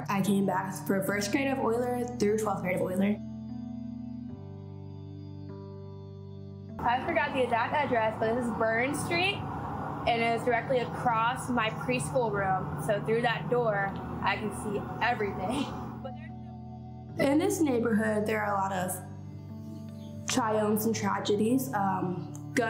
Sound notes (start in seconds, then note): 3.9 somber music; 15.4 laughs